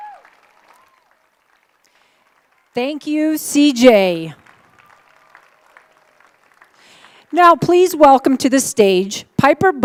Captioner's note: applause